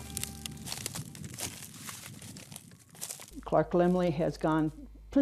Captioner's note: footsteps